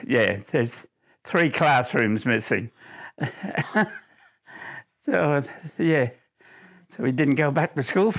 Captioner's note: laughs